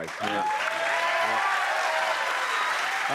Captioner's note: cheers and applause